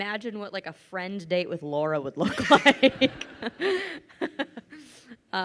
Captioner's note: laughs